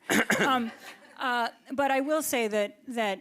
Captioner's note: audience laughs